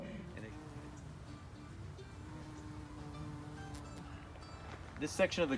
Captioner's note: bumblebee buzzing